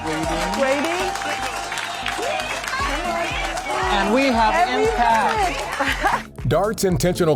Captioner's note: applause